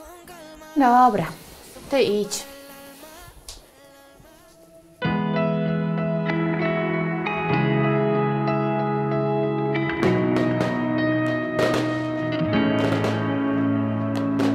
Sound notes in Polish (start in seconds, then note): 4.9 spokojna muzyka; 10.0 fajerwerki w tle; 12.6 spokojna muzyka